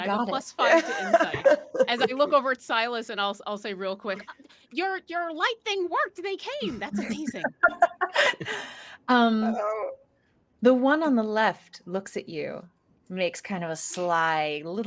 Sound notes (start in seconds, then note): 6.7 laughing